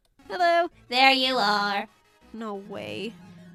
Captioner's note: robotic voice